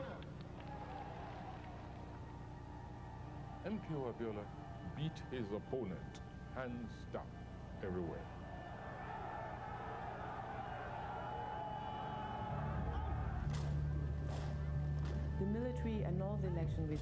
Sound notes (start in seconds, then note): 0.4 crowd applause; 9.9 crowd cheering